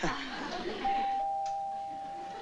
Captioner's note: doorbell ringing